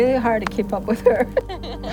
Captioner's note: laughs